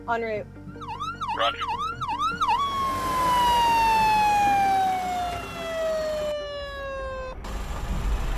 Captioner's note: sirens